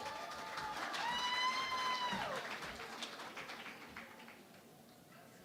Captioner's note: cheering and Applause